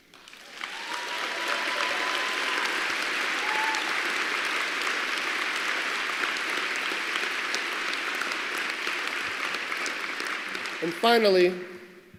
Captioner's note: applause